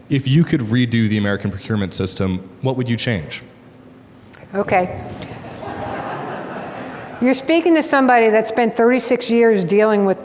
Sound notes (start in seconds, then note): 5.1 audience laughs